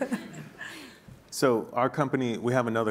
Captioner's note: laughing